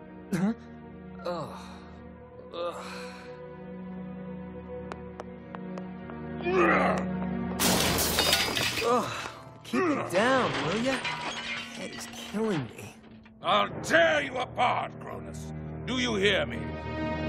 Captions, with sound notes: Huh? (Groaning) (Growling) Oh, keep it down, will you? My head is killing me. I'll tear you apart, Cronus. Do you hear me?